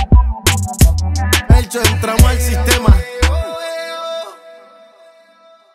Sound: eoh-eoh-eoh

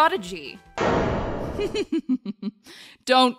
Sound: chuckling

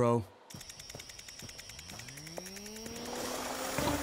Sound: whirring

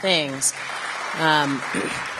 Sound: applause

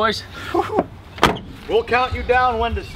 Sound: door clicks

